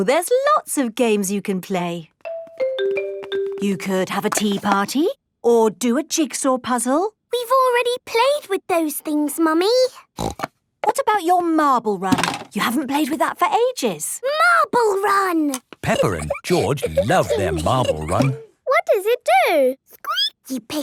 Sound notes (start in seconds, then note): 10.1 snorting; 20.0 squeaking